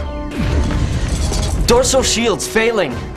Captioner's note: explosion